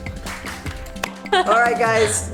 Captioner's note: laughter